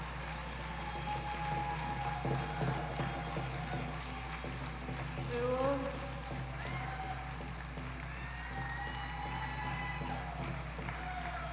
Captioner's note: applause